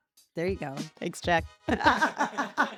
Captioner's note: laugh